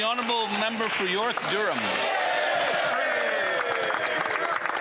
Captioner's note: applause